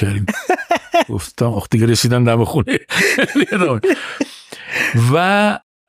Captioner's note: laughs